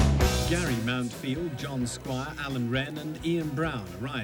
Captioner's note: none